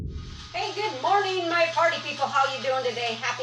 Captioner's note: text whooshing